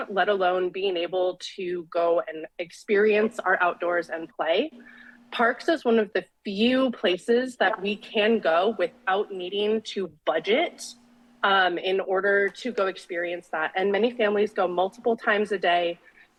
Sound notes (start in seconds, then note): none